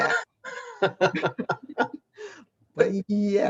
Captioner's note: laughs